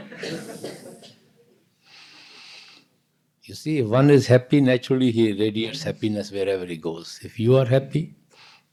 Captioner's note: laughter